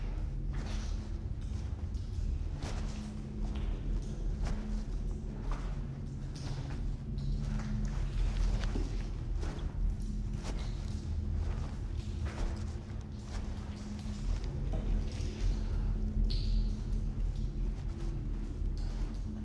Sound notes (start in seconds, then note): 4.8 water dripping; 11.2 footsteps approaching